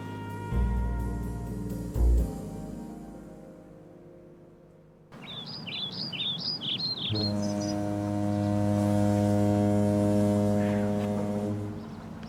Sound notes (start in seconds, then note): 0.0 mellow orchestral music; 5.1 birds chirping; 6.8 cruise ship horn blaring